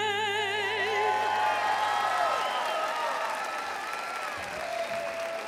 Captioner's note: audience cheering and applauding